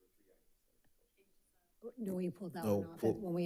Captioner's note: faintly speaking